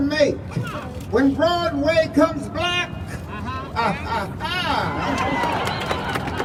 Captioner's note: crowd cheering, laughing